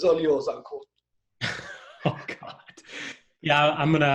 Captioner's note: laughs